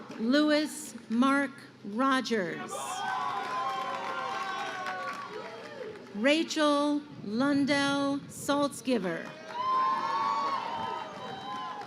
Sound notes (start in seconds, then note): 9.2 crowd cheering